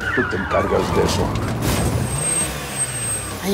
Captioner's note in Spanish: Ruido del vehículo